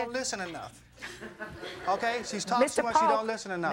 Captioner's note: audience laughing